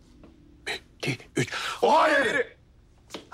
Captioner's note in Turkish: Hep bir ağızdan